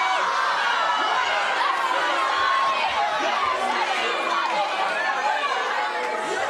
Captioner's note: audience responds scathingly